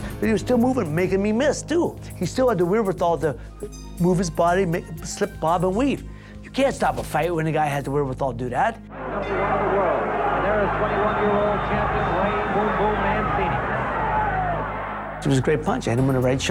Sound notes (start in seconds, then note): 9.2 bell dings; 13.8 cheering